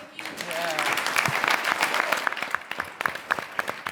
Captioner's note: clapping